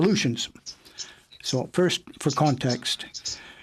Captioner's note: speaking in French